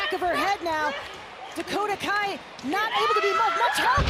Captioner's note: thud